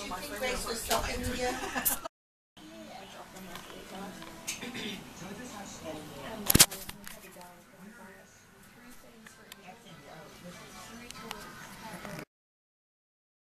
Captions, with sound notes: DON'T YOU THINK GRACE WAS TALKING TO YOU? *Clears Throat*